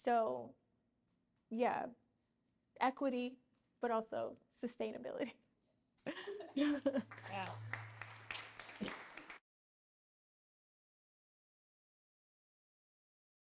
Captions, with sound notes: So yeah, equity, but also sustainability. (audience laughing) (audience applauding) - Yeah.